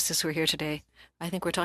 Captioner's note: speaking french